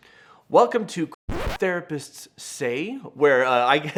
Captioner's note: record scratch